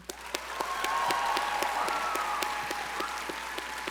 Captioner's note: audience cheering